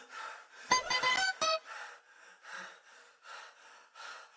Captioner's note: bell chimes